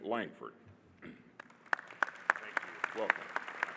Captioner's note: audience applauding